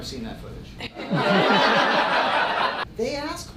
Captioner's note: audience laughing